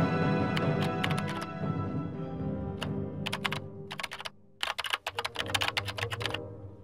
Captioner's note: dramatic music; classical music; keyboard keys clicking